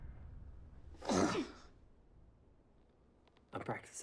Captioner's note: groans